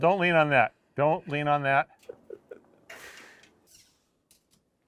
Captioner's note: laughing